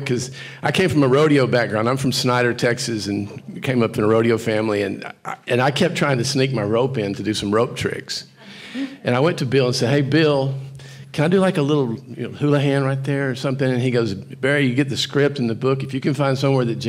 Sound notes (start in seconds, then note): none